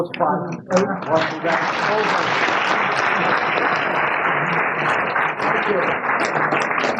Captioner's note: applause